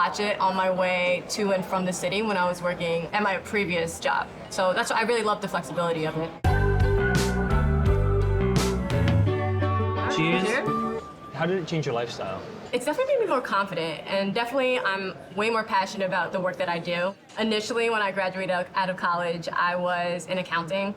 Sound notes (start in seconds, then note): none